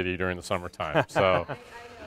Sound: laughs

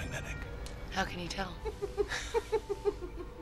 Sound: giggling

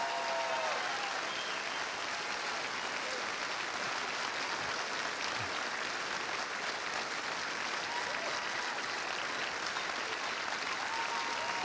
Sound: cheers and applause

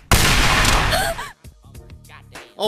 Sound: gunshots; gasp

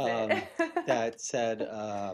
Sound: laughter

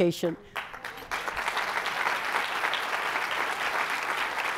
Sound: applause

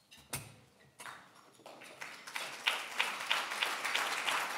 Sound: applause

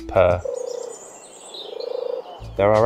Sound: turtle Dove calls

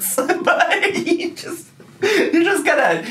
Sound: laughing

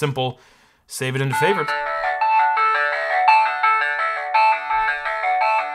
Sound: computer chimes

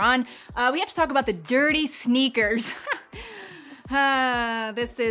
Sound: chuckling

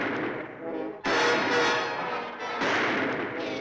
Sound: thrilling music; guns firing

